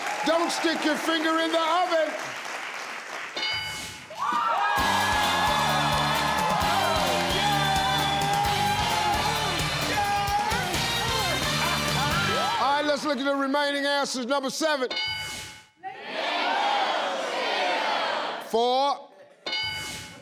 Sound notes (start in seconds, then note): 0.0 crowd cheering; 4.8 crowd cheering; 5.9 upbeat music; 15.1 beeping